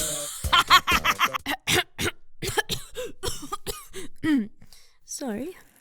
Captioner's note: coughs a bunch